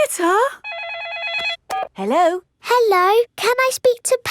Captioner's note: phone rings